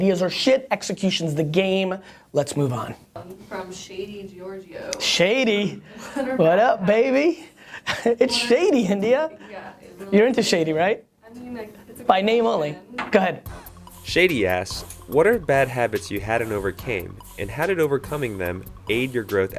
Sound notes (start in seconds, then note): 13.5 voiceover